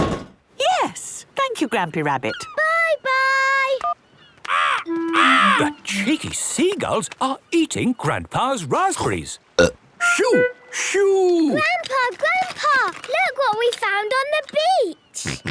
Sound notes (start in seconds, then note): 2.1 seagulls cries; 9.3 burp